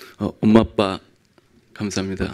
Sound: speaking in foreign language

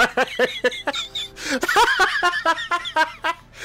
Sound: laughs

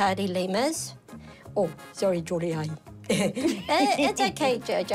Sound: chuckles

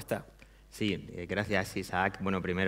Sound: speaking spanish

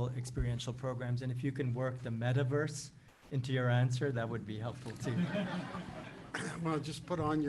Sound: laughter

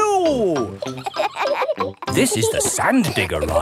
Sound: kids laughing

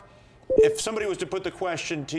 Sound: notification bell chimes

